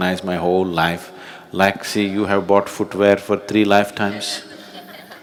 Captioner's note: laughter